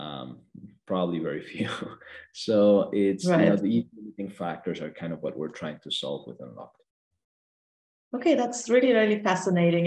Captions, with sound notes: Probably very few. (chuckles) So, the (audio breaks) factors - Right. - are what we're trying to solve with Unlockd. - Okay. That's really, really fascinating.